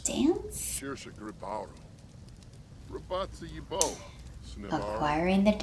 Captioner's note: sims talking